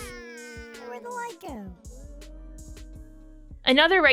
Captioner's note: crowd booing